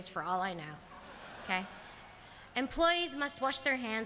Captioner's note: laughter